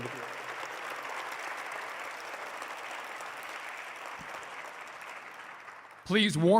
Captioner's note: applause